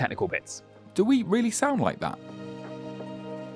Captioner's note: voiceover